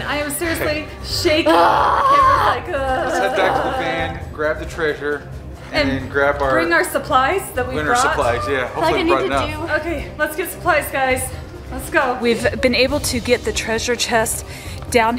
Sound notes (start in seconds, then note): 1.4 yells; 3.8 voice warbling